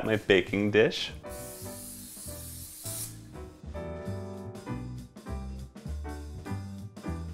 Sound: spraying; upbeat jazzy music

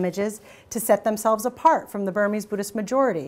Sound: none

